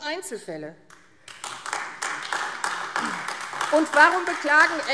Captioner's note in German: Beifall AfD